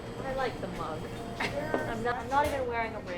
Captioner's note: Gertrude chuckles